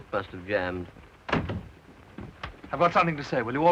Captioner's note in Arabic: يغلق الباب